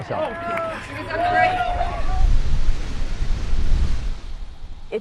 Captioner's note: competitors applauding